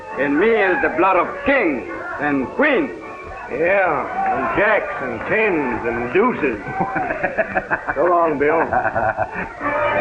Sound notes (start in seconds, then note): 6.6 laughter